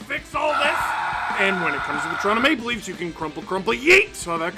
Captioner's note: screaming